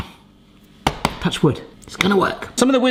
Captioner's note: hand taps